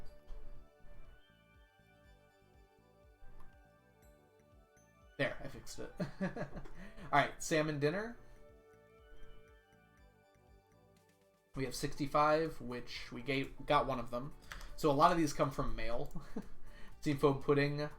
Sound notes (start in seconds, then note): 6.3 laughs; 16.1 chuckles